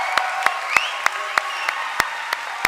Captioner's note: cheering and applause